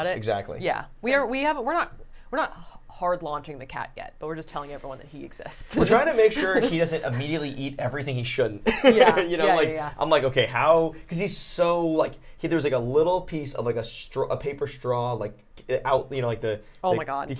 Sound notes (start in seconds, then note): 1.5 stammering; 8.6 laughing